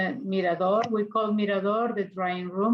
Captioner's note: speaks in foreign language